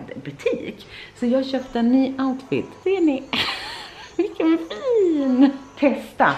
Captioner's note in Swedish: skratt